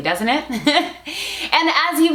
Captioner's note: laughs